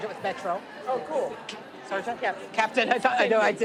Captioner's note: audience chatting